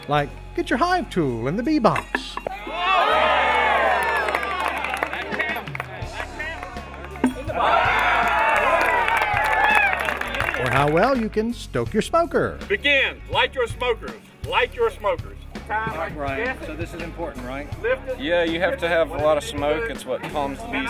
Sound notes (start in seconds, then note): 4.2 cheering and applause; 7.3 tool clanging in box; 9.3 crowd cheers